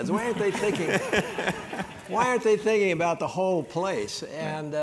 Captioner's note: applause